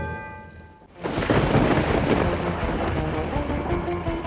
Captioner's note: thunder crashing; funky rock music